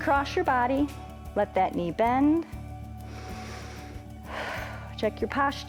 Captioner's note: inhales and exhales